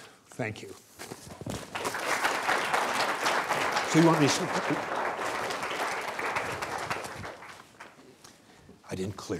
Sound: applause

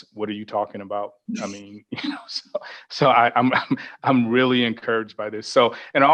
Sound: laughs

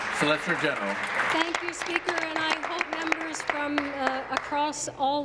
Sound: applause

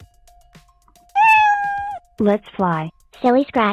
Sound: meow

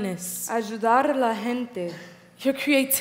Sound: speaking in foreign language

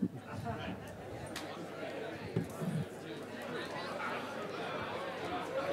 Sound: audience chatters and laughs

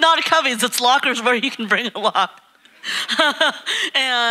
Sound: laughing

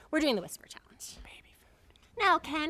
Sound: whispers

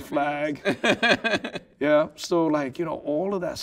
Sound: laughing

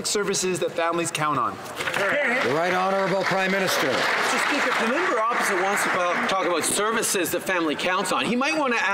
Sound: some Applause

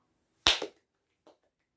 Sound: claps

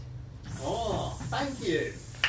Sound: snake hissing

